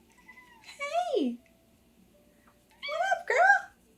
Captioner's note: Peach meows